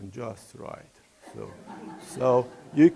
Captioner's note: laughing